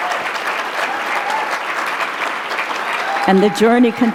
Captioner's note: applause